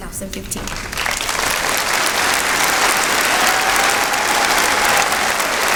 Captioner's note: applause